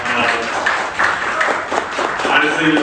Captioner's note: applause